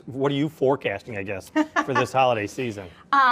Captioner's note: laughs